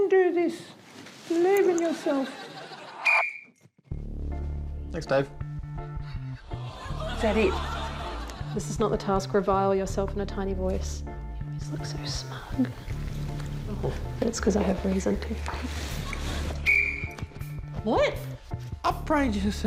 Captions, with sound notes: [BLOWS WHISTLE] Thanks, Dave. Is that it? "This is not the task. Revile yourself in a tiny voice." [BLOWS WHISTLE] What?